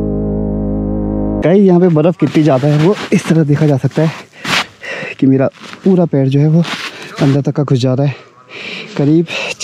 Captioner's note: digs Foot in the snow